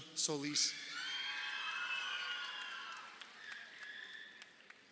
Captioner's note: crowd cheering